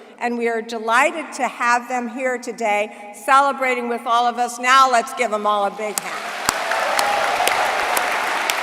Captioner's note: applause